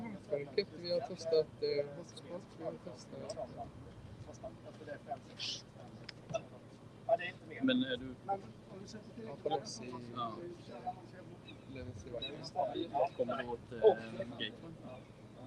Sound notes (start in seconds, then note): 0.1 speaking Swedish